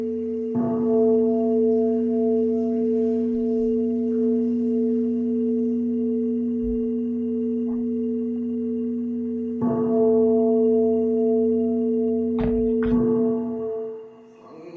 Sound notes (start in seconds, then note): 5.7 ringing of bell continues